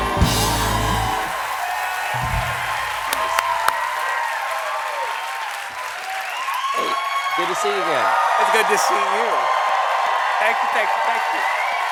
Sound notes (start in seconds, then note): 3.4 cheers and applause